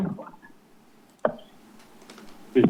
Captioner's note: rustles